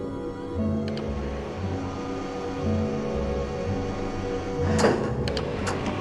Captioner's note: machine whirring; click; machinery moving, clicking; thud